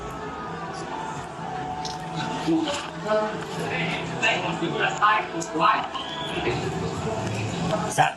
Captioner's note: background club noise; mumble rapping